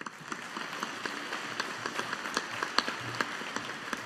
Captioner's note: audience applauding